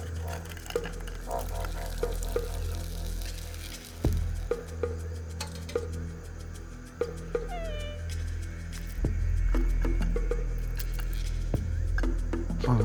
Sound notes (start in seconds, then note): 7.4 dog whimpers